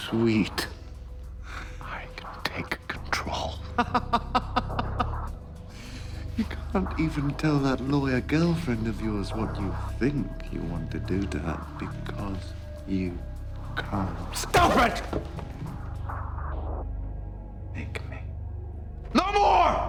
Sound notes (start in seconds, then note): 6.3 laughs